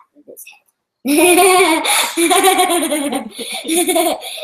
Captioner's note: girl laughs